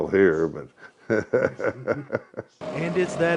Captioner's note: laughs